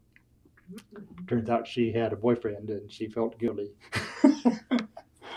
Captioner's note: laughs